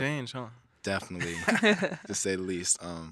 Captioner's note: hosts laughing